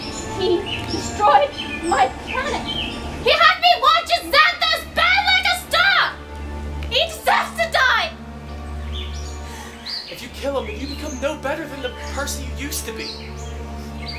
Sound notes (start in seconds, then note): none